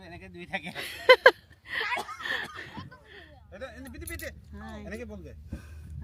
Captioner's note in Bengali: সশব্দ হাসি